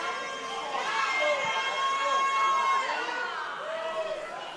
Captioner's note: crowd shouting